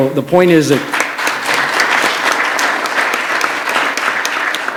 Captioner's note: applause